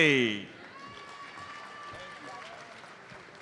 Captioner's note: audience applauds